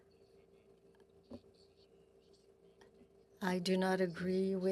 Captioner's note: speaking French